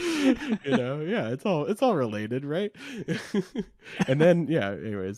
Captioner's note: both laughing; laughs